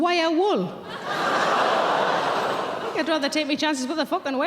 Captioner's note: audience gasp